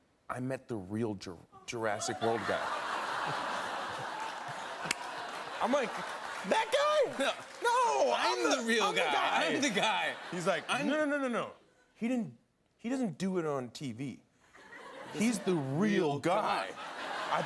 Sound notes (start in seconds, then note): 2.0 laughter